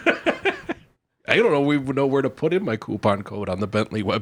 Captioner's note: laughs